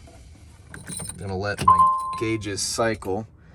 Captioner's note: key turning; beeping